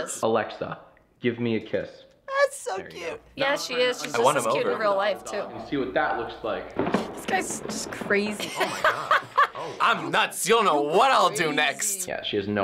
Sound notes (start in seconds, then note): 8.3 laughs